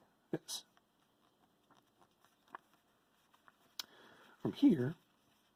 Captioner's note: paper rustling